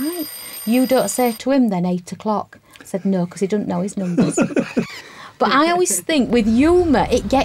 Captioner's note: laugh